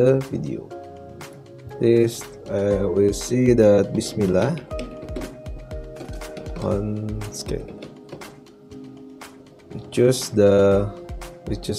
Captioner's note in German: murmelt während des Tippens